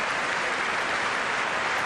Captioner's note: applause